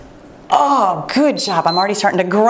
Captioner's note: timer beeps